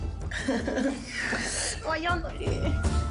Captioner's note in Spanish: Risas